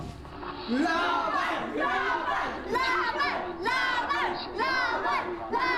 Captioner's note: chanting in foreign language